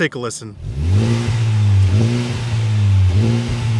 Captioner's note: engine revving